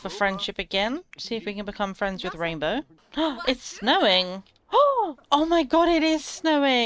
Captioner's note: gasps